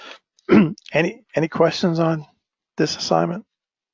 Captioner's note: cough